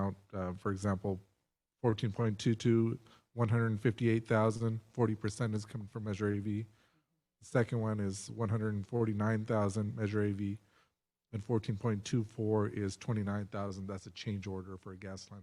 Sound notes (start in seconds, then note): none